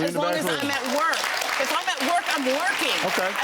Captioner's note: audience applauds